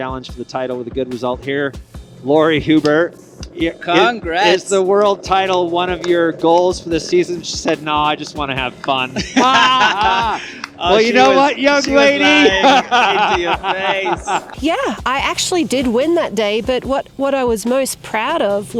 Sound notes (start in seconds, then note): 12.3 laughing